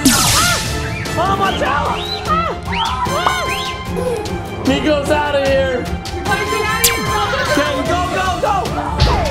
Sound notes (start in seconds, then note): 0.3 screaming; 2.5 screaming